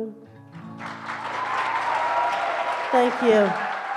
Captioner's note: audience applauds